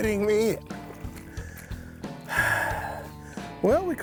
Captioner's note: sighs